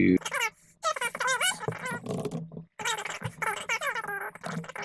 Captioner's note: high pitched gibberish